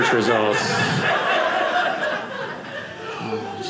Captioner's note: audience laughing